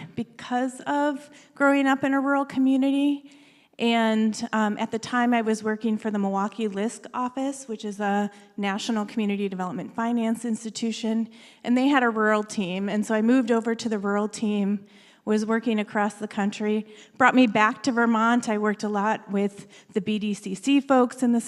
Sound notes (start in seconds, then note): none